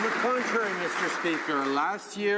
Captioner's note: some Applause